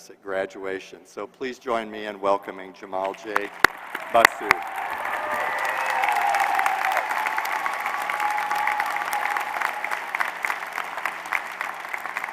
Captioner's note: applause